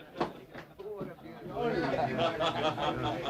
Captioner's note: laughter